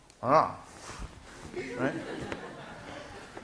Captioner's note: class laughing